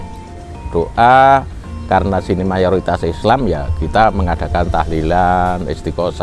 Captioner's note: repeated recitation